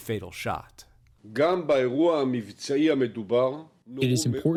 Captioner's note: through translator